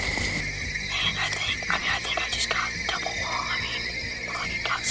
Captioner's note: whispering